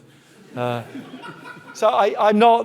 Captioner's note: audience laughing